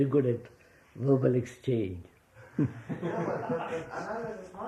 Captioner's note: laughter